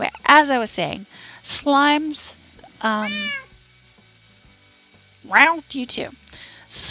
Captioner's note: relived sigh; cat meows